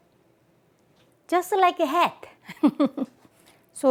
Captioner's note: laughs